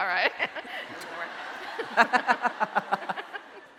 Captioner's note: laughing